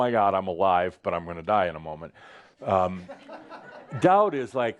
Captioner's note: some chuckles